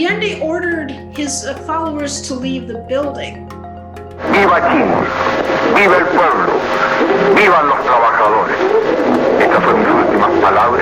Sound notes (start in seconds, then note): 4.2 foreign language broadcast